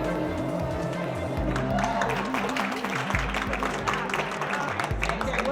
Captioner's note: applause